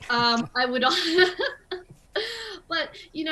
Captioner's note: chuckle